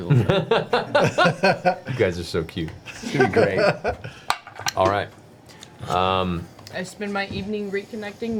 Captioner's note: laughs